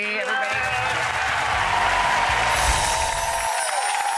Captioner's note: cheers and applause